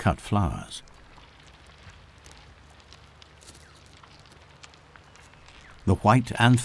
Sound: nature sounds

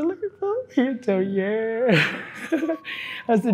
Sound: laughs

